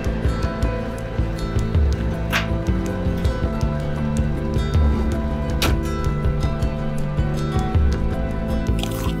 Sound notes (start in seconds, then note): 0.2 soft music; 5.4 door closes